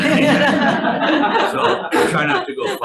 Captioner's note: audience laughing